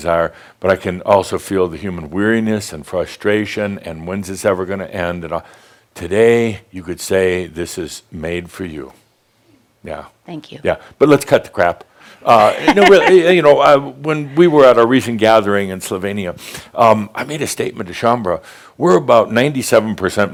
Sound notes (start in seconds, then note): 12.3 she chuckles